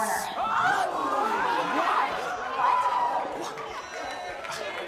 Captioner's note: crowd cheering